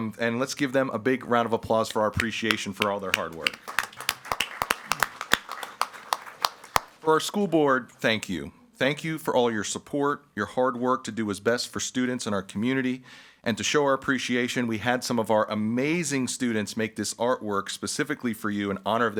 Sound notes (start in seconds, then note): 4.0 group clapping